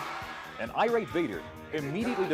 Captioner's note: crowd cheering; bell ringing